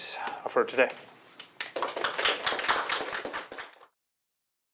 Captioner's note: applause